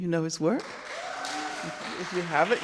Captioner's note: crowd clapping